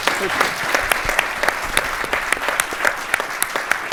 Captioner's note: audience claps